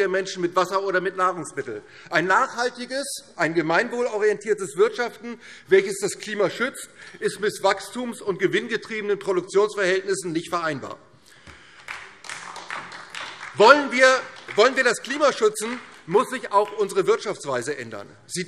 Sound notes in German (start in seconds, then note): 11.4 Beifall DIE LINKE